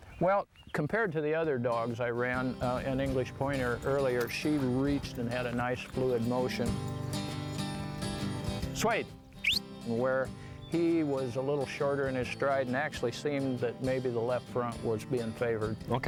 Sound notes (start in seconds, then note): 9.4 whistles